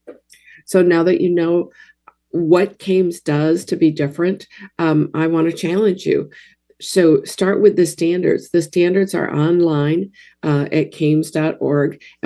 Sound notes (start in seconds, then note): none